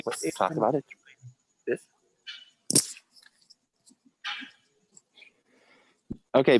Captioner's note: indistinct chatter